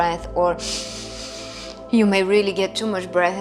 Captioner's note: exhaling; inhaling